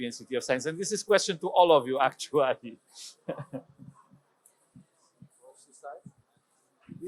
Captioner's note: laughs